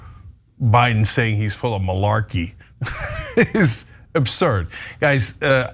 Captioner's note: laugh